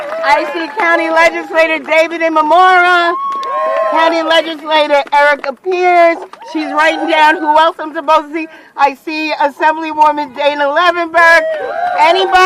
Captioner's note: cheering